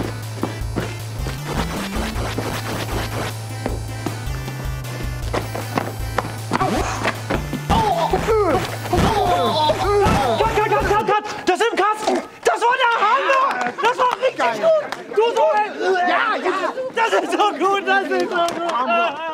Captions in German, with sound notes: *Schritte* *Schritte* *Schlaggeräusche* Cut, cut, das ist im Kasten! Das war der Hammer! Das war richtig gut! Das ist so gut!